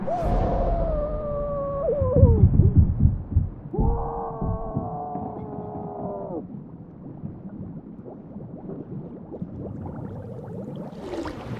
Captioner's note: laughing